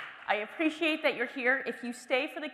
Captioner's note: applause